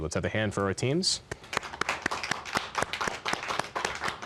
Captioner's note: applause